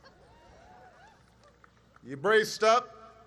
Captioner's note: applause